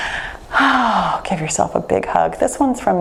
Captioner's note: sighs contentedly